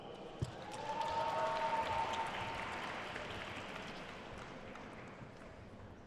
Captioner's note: attendees cheering and applauding